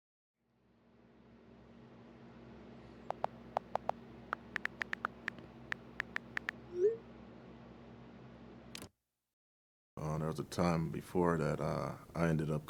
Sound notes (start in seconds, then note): 4.3 phone keyboard typing